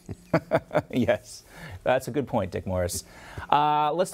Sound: both laugh

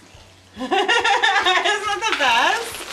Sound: laughing

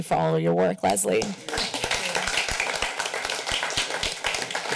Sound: applause

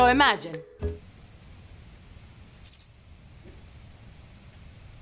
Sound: crickets chirping

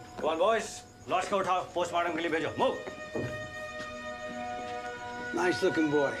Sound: speaking foreign language

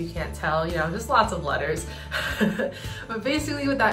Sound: laughs

